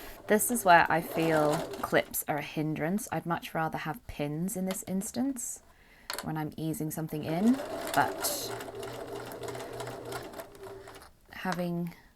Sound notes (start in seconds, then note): 7.2 machine whirs